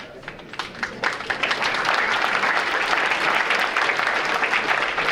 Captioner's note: audience applauding